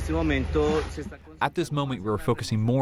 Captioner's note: through translator